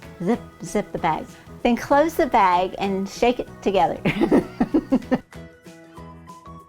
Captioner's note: laughing